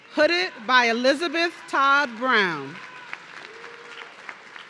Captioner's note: audience cheering